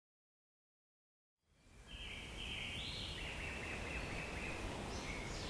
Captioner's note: birds chirping